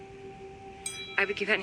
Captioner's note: phone dings